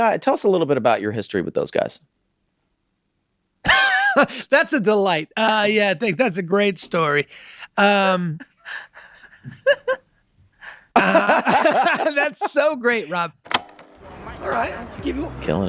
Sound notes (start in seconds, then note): 4.0 laughing; 9.4 laughing; 10.9 all laughing